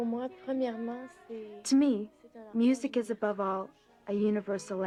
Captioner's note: speaking French